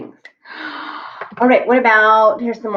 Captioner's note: gasps